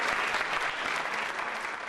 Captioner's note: applause